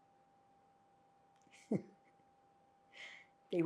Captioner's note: laughing